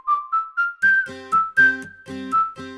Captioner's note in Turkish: ıslık çalar